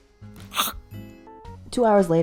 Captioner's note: chomp